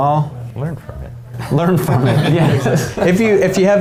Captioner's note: laughing